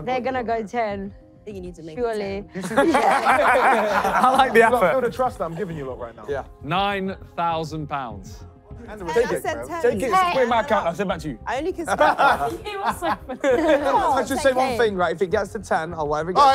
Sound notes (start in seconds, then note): 2.5 laughing; 11.9 laughing